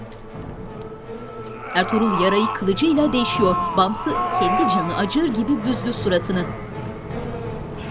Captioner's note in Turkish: Bağırma sesi